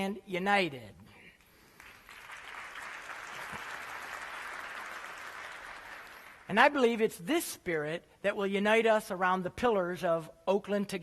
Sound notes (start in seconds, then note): 1.5 applause